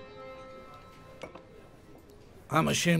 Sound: glasses clinking

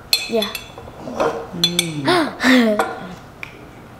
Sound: laughs

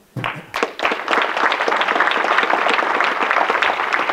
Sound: audience clapping

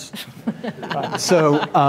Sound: laughing

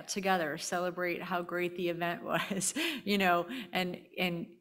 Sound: chuckling

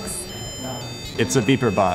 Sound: electronic beeping

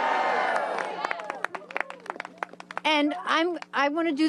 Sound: applause

